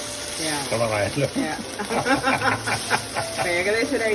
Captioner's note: laughs